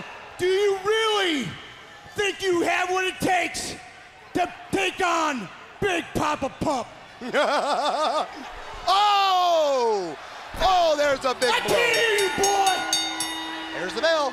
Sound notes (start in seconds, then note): 11.4 bell ringing